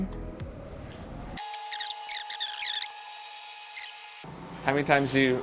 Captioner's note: fast-forwarding sounds